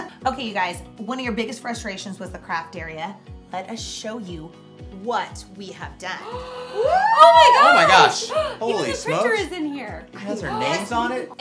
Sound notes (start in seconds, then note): 6.2 gasps